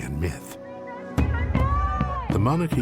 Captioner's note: protestors shouting in Japanese